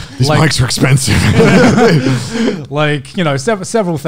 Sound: laughing lightly

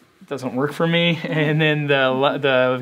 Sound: laugh

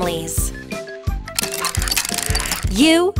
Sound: tile clicking

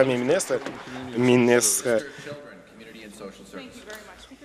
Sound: applause

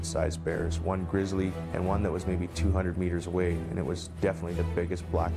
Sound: voiceover

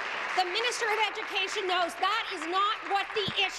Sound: applause

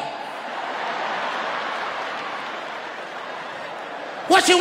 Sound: audience laughing

